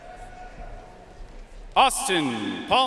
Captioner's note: audience cheering and applauding